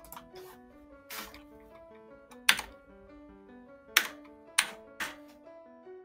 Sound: keys clicking

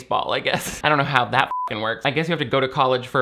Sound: laughs; beep

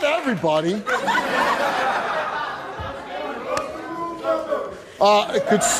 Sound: audience laughs and jeers

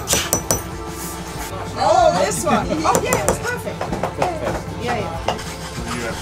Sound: laidback music; chatting in background

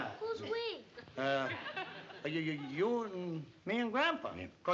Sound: stammers

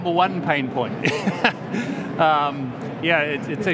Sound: laughs

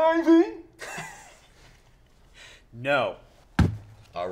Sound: laughs

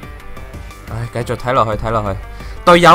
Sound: sighing

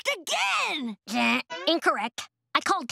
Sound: imitates buzzer

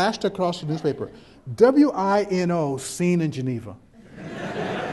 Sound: background chuckles

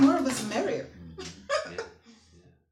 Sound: chuckling

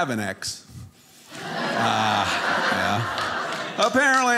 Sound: audience laughing

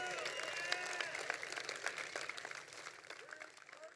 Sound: crowd applauding

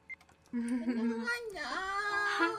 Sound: awkward laughter

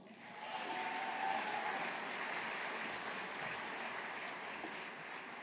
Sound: audience applauding

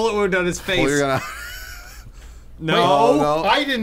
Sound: laughing

